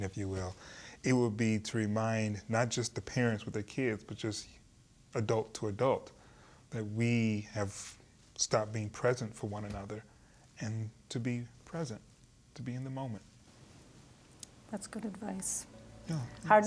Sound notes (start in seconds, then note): none